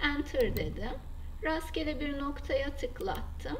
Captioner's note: right mouse click